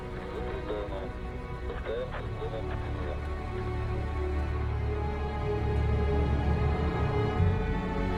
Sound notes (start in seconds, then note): 0.6 man speaking in foreign language